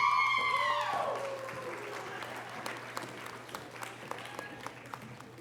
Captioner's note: audience cheering and applause